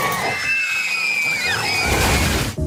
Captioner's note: kid screaming; crashing